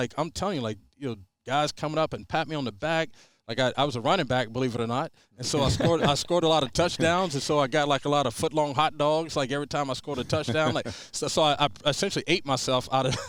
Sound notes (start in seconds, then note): 5.4 laughing; 13.0 all laughing